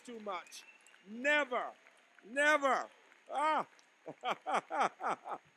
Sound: laughing

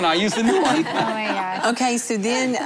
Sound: laughter

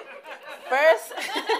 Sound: laughing

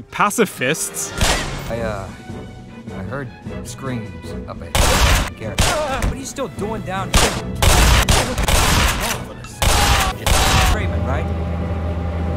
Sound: lip smack

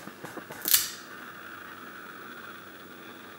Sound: stick snaps

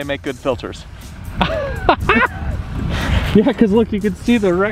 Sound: laughing

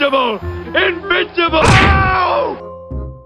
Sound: thud

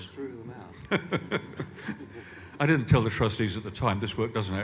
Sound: laughs

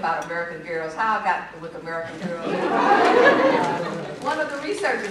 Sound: laughter

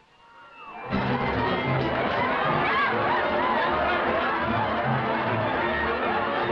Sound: partygoers shouting and laughing

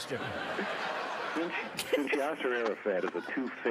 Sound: laughter

